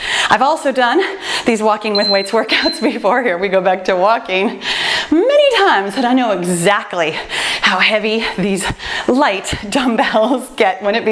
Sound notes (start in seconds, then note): 1.9 timer beeps